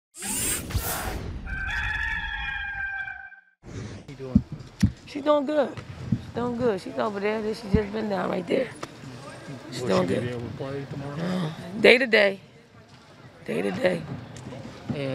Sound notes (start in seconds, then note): 0.2 machine powering up; 1.4 rooster crowing; 3.7 air swishes